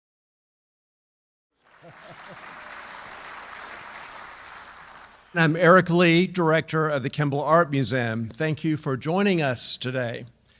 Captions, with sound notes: (audience applauding) - I am Eric Lee, director of the Kimbell Art Museum. Thank you for joining us today.